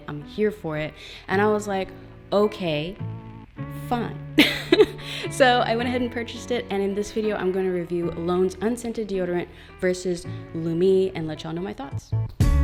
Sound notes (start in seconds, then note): 4.4 laughs